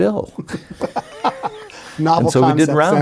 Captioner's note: laughs